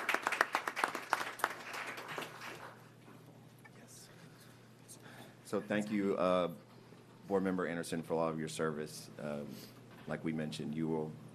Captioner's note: applause